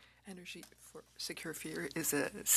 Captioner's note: speaking French